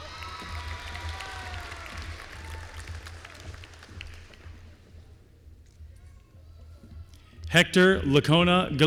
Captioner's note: applause